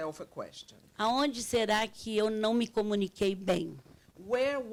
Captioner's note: speaking Portuguese